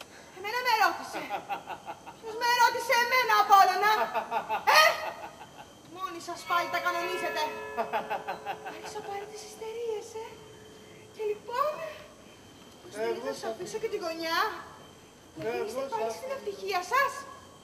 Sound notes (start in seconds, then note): 1.3 γέλιο του; 7.7 γέλιο του